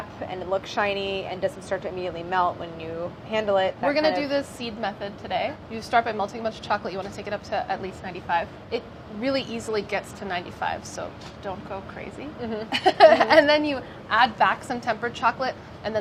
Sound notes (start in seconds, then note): 12.5 laughs